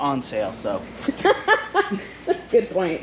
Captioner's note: laughs